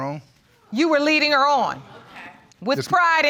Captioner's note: audience gasps